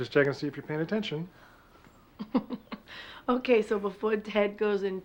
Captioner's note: laughs